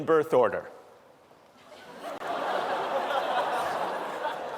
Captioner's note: laughter